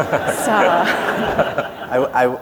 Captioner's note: laughter